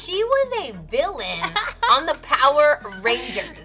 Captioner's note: laughing